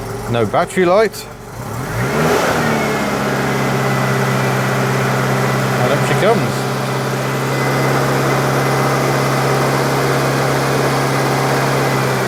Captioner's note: engine noise, bearing noise